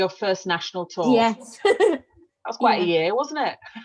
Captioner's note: chuckles